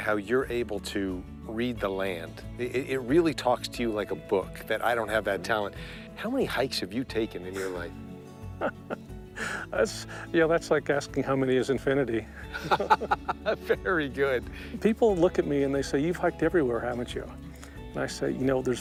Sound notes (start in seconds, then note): 12.4 laughter